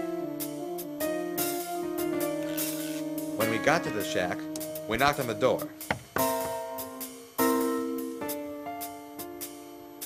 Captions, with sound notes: When we got to the shack, we knocked on the door... [ KNOCKING ]